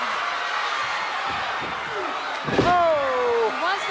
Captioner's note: audience chattering and shouting; body thuds